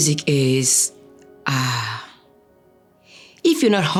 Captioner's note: sighing